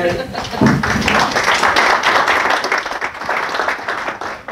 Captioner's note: applause